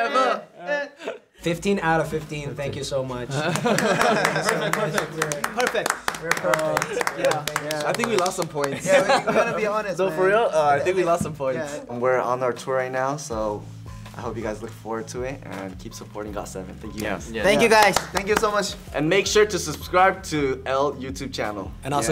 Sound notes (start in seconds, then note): 3.3 laughing; 3.5 clapping; 8.6 laughing